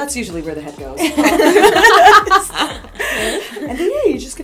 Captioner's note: laughter